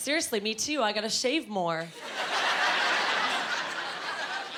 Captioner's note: laughing